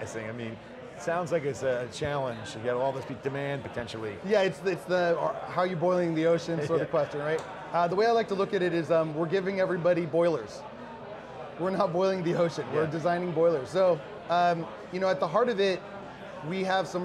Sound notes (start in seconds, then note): 6.6 laughing